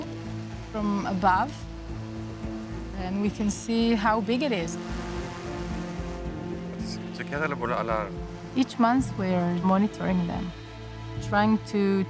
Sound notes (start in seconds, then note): 4.6 drone whirring; 5.8 speaking Hebrew